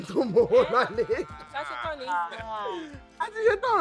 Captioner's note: laughs